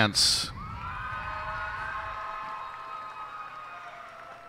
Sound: cheers and applause

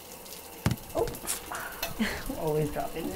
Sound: running water; phone hitting floor

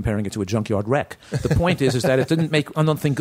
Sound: laughter

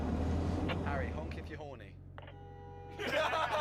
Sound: horn blares; laughter

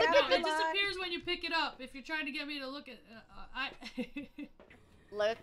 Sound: laugh

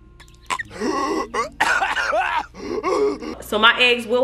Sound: coughing

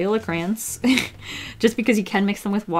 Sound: laughs

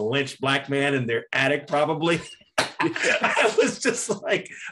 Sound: laughs

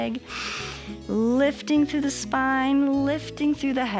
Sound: inhales

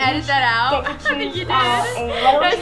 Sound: laughs

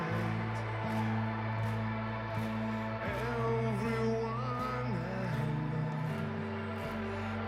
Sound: rhythmic clapping

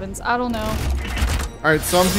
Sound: fuse machine buzzes

